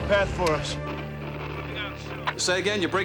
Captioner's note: static crackling; voice breaks up